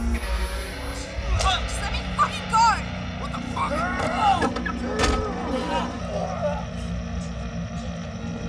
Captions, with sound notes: - Fuck! - Just let me fucking go! - What the fuck! (Jack groaning)